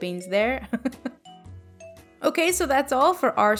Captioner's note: laughing